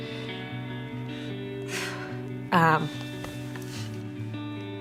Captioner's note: exhaling with emotion